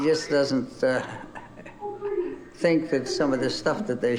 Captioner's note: laughs